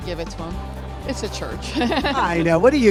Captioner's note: women laughing